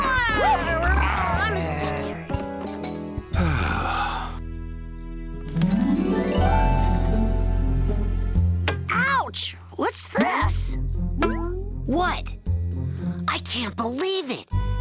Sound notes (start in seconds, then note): 0.0 all roaring; 3.3 sighs